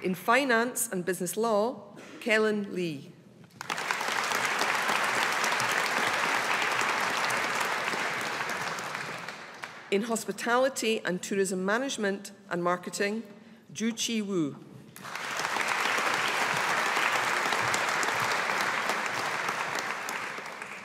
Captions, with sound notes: In Finance and Business Law, Kelin Li. (AUDIENCE APPLAUDING) In Hospitality and Tourism Management and Marketing, Jui-Chi Wu. (AUDIENCE APPLAUDING)